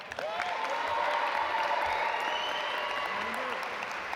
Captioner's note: audience applaud